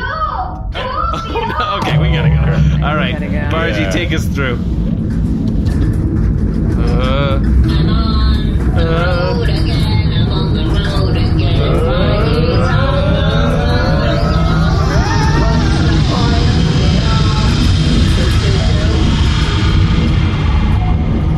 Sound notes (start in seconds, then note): 2.2 shouting; 10.5 nervous groaning; 21.2 singing